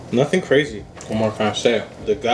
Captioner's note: none